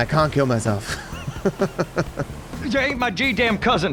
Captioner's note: laughs